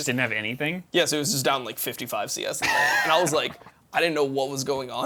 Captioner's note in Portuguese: risos